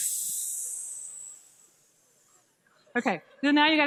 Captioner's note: hissing